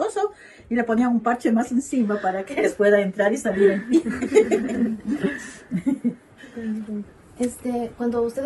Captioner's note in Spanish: risas